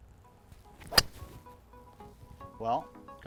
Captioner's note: golf club swinging